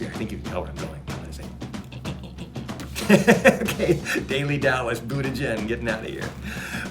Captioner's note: laughs